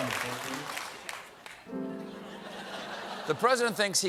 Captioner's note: laughter